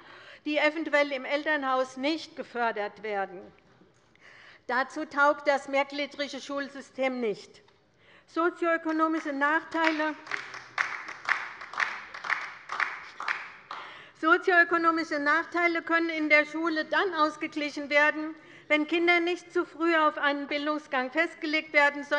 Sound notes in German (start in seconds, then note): 9.7 Beifall bei der LINKEN